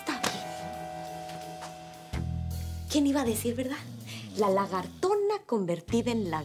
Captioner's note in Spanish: Suena el timbre